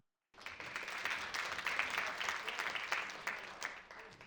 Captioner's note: audience applauding